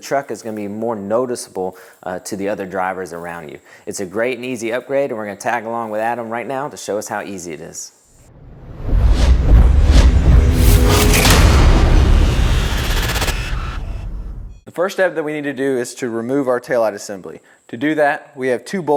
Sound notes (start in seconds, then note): 8.2 sound effect